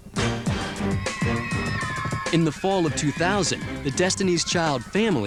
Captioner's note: cheering